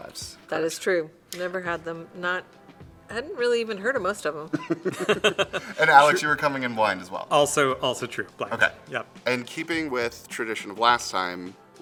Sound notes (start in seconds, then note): 4.5 laugh